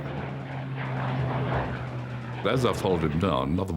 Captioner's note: plane engine roaring